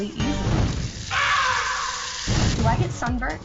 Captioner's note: screams cartoonishly